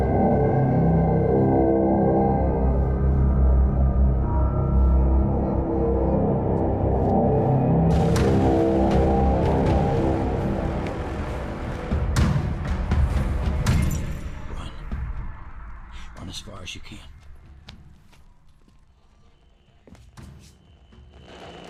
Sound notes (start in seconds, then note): 5.9 soft intense music continues; 13.4 chains rattling; 18.9 gentle tense music; 21.0 static crackling